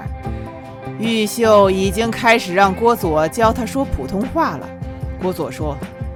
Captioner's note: they talked in Jiangsu dialect